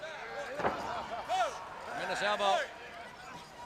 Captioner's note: crowd chatter